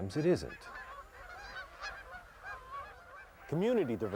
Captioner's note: ducks quacking